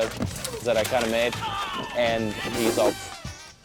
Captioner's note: groans